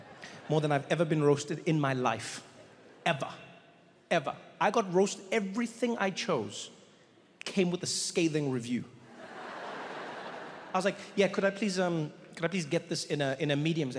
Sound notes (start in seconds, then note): 9.1 audience laughs